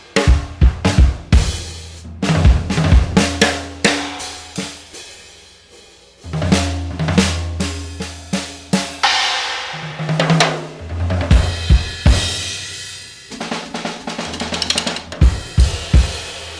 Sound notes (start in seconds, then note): none